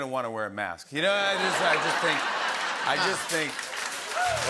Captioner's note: laughter